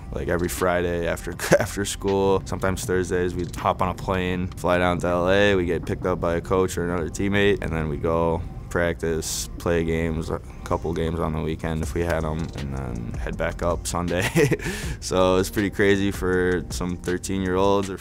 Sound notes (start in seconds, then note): 14.2 laughs